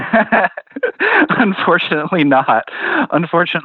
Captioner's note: laughs